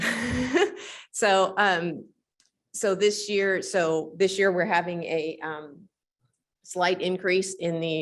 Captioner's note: chuckles